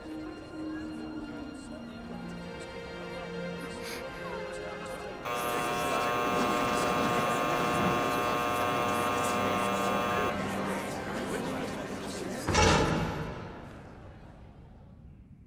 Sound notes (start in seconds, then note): 3.8 gasps; 5.2 buzzer buzzes; 10.1 crowd chattering indistinctly